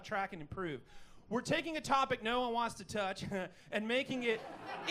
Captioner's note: heheh